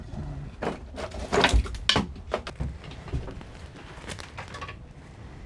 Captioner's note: metal clanking